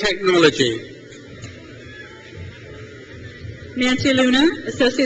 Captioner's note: crowd cheers